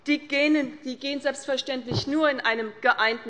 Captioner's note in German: none